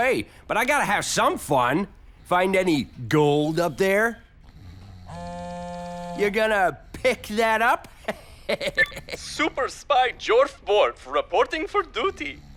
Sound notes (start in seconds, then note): 4.7 phone vibrates; 7.6 giggles; 9.6 on phone